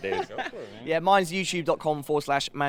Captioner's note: laughter